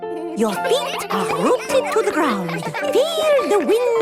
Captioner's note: all giggling